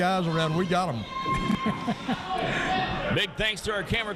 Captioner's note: laughs